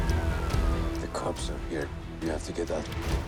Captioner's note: in English